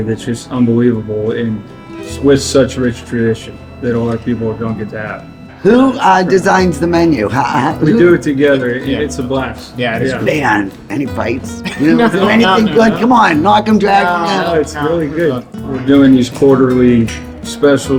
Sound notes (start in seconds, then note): 7.0 laughing; 11.6 laughing